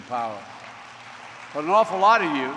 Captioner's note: applause